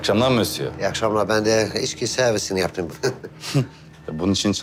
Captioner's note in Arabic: يضحك